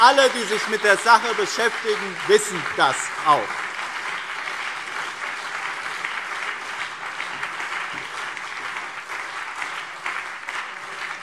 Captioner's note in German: Beifall BÜNDNIS 90/DIE GRÜNEN und CDU